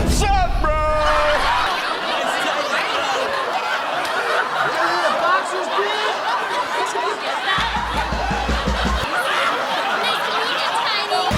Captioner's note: heavy Laughter